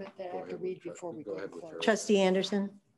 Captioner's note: faintly speaking